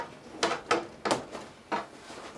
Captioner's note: clattering